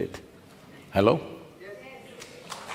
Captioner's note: applause